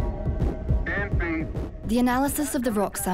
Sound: radio transmission

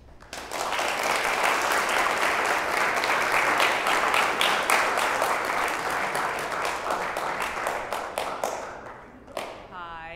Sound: applause

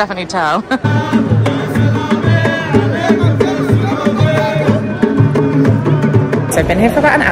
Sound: upbeat music; men chanting

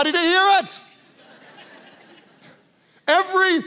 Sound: congregation laughs

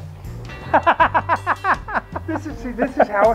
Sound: laughs

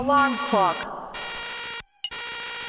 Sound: loud robot voice; loud beeping

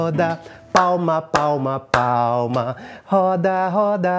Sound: clapping

